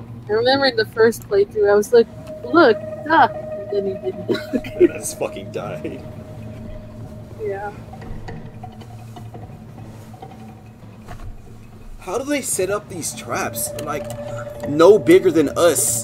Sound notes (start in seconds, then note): 4.6 laughs